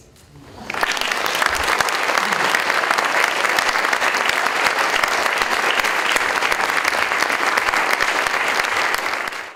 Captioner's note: audience Applause